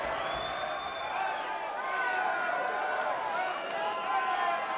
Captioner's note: crowd murmuring